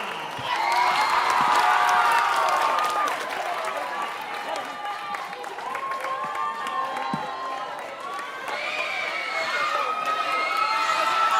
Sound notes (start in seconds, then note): 2.2 audience cheering and applauding